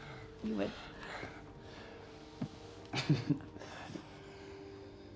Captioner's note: chuckles